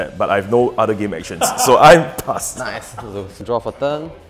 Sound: laughs

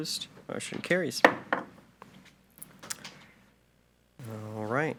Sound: gavel knocks

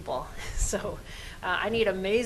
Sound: laughs

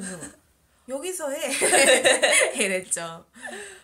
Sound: laugh

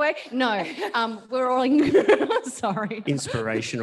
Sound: laughs

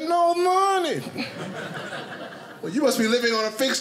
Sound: audience laughing

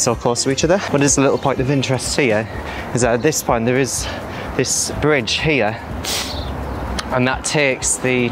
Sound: flyover

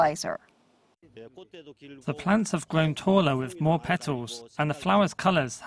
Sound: Korean

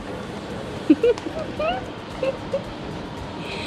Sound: laughs giddily

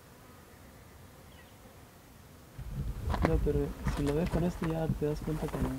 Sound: Spanish

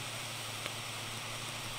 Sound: static

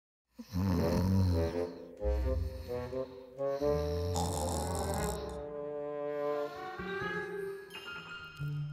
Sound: snoring

